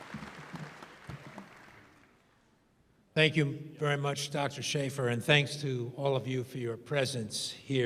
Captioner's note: applause